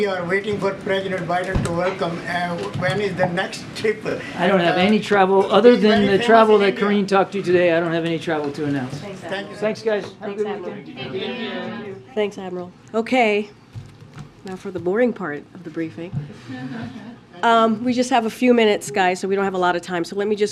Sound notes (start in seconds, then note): 16.4 laughter